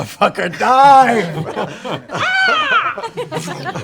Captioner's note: caw